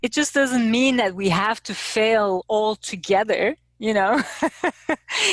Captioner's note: laughing